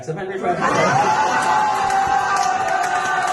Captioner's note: crowd Cheering